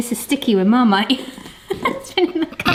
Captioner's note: snickers